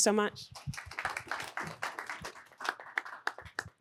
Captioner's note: applause